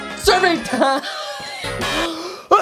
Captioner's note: coughs uncontrollably